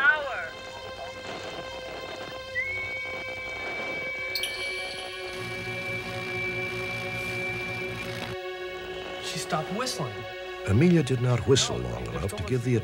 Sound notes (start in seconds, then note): 2.2 whistles